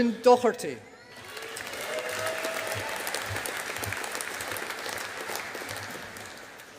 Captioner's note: audience applauding